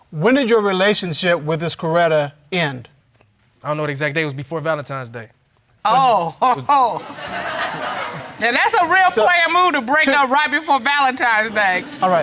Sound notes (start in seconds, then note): 6.3 laughs; 6.8 audience laughs